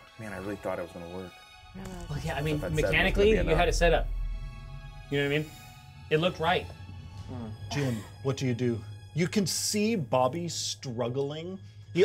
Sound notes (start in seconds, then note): 7.3 speaker chuckles